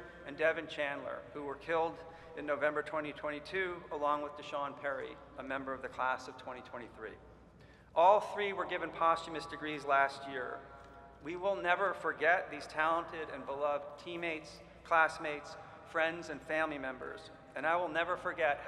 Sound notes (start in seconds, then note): none